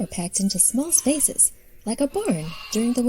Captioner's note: sheep baa-ing